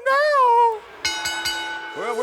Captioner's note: bell dinging